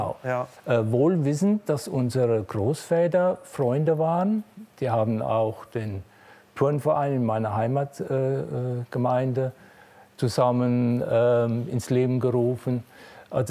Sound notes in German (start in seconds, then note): none